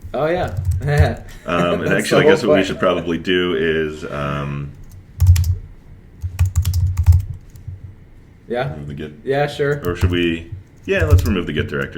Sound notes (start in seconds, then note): 1.2 chuckles